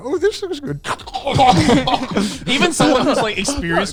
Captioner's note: laughing; gasping